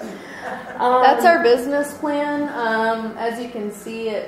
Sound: voiceover

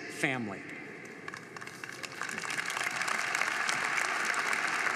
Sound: crowd applauding

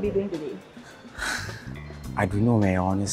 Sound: sighs

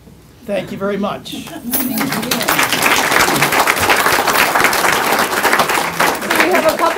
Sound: applause

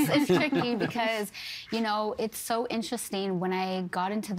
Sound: laughter

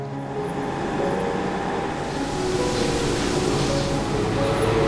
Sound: wind blowing

